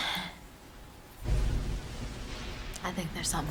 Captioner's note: thunder & lightning